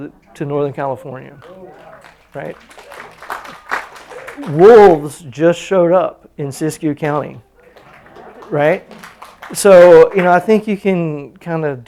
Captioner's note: applause